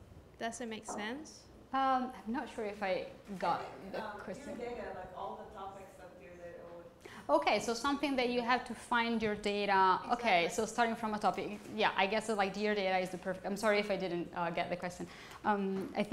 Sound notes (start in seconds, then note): 4.6 voiceover